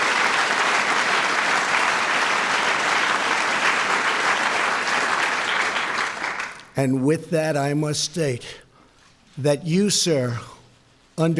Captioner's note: applause